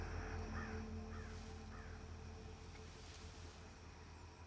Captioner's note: raven squawks